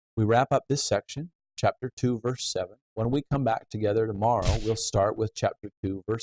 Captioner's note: door closing